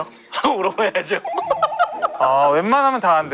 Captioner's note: resigned laugh